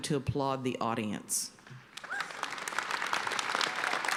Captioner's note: applause